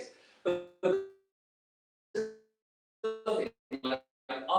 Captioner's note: video stuttering